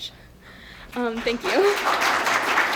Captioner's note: applause; laughs